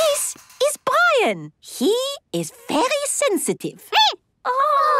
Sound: squeaking

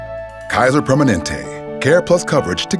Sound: voiceover

